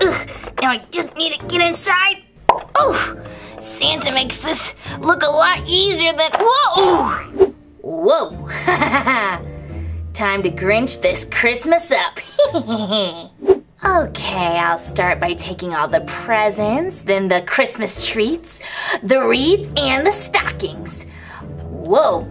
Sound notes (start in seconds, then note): 2.4 pops; 7.0 boing